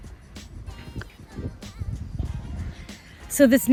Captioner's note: air whooshing